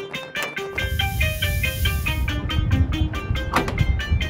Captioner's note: engines rev and pop; air hisses